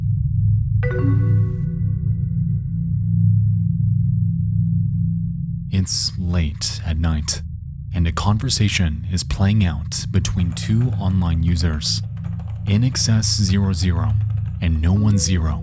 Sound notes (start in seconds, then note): 0.8 computer beeps